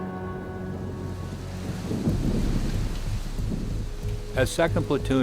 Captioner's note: wind blowing; voiceover